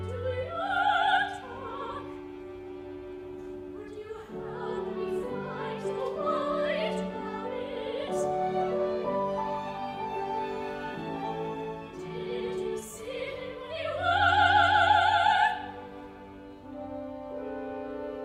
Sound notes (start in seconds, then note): none